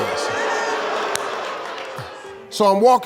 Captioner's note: audience booing